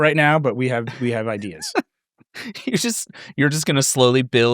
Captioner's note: laughing